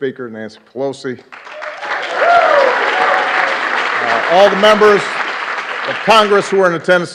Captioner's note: applause